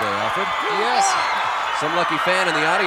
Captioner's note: audience cheering; chuckling